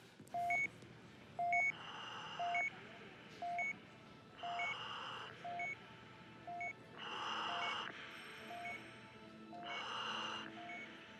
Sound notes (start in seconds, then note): 0.2 machines beeping; 5.1 ventilator breathing